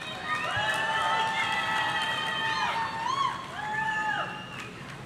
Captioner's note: audience cheering